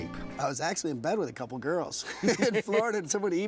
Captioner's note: laughs